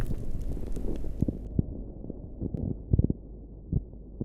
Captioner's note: rubble thuds; audio crackling